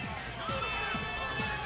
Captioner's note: crowd chatter